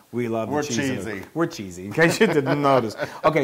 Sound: laugh

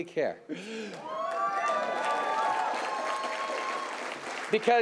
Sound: cheering and applause

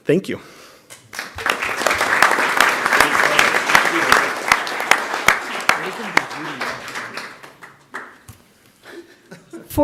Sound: applause

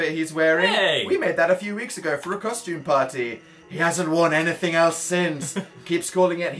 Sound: chuckles

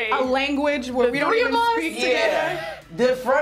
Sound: laughs

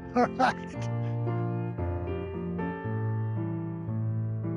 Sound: laughs

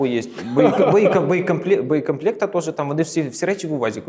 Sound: laughing

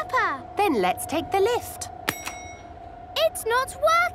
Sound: lift pings

